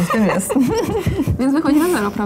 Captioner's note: laugh